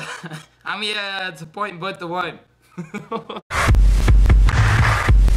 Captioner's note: laughs; laughter